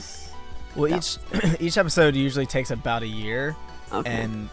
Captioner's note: clears throat